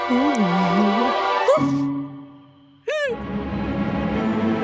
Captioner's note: Eve gasping